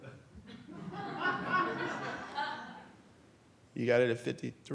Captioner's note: audience laughs